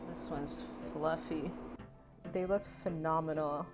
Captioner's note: none